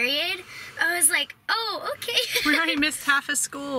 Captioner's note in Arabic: يضحك